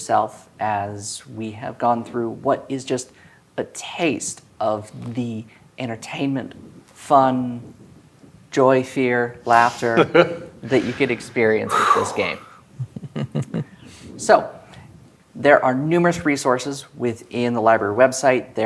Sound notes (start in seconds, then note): 9.4 laughs; 12.5 chuckling